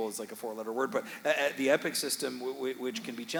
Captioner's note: audience laughing